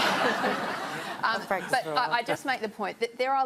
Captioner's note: laughter